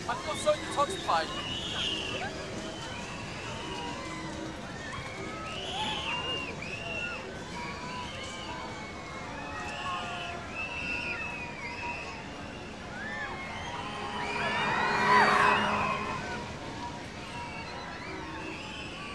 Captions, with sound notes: I feel so detoxified. (people screaming)